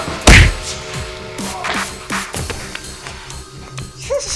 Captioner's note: gun pounding